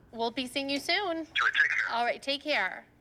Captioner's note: on phone